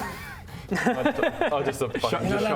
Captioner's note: laughs in pain